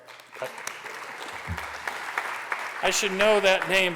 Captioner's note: applause